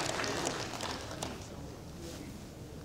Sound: applauds

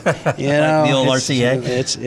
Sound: laughs

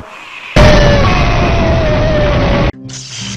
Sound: explosion

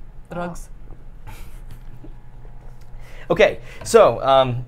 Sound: chuckles

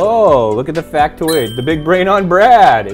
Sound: clink

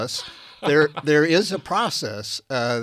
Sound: laughing

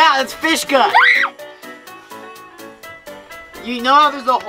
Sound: screaming

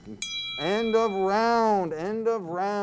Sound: timer dings

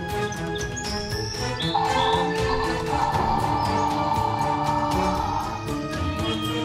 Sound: Metriacanthosaurus roaring

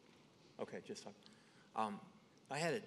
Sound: speaks faintly

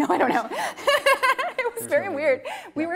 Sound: laughing

